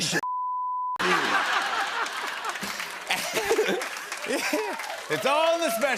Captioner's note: laughter and applause